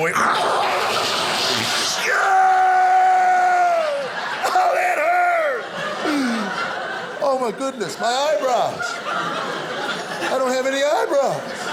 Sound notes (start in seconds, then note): 0.2 imitating blowing nose; 1.8 screaming